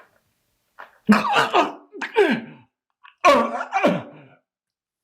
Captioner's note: Chuck retching